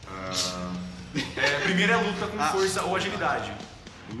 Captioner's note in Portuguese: Risadas